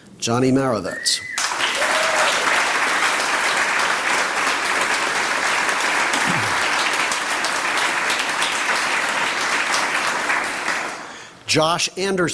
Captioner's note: applause